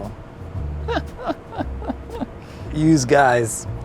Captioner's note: laughs